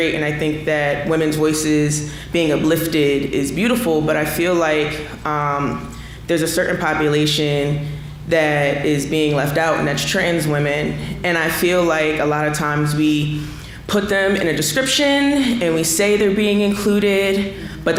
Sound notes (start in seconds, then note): none